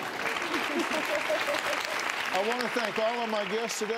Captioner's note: applause